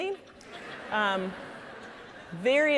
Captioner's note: audience laughing